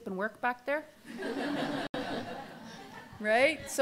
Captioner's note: audience laughter